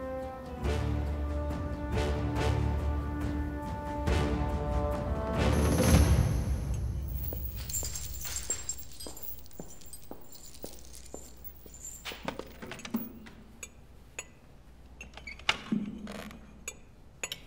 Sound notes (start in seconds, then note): 6.7 footsteps; 12.1 chair pull sound; 14.0 fork - Knife sound